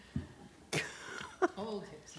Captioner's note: laughs